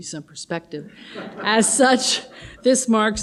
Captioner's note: audience laughs